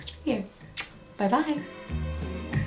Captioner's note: blowing kiss; bright music